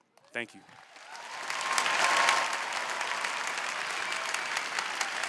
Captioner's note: applause